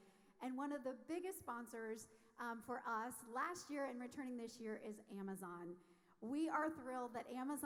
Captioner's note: none